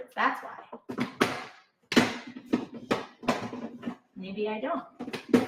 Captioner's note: container thumping